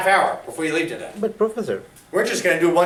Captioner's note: voiceover